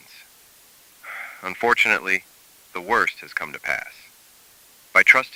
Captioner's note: sighs of relief